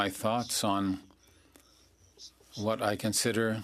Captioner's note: speaking French